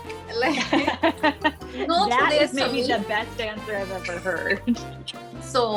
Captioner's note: laughs